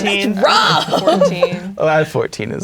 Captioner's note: laughing